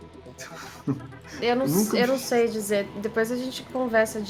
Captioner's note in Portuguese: riso